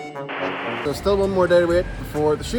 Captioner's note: static crackles